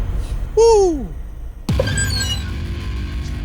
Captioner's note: door squeals